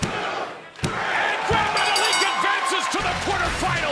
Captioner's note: bell rings